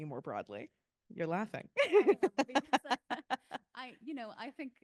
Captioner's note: laughing